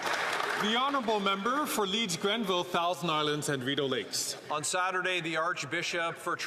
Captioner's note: some Applause